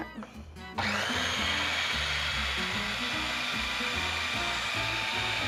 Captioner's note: blender whirs